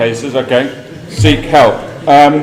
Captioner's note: laugh